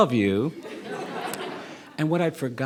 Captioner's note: audience laughing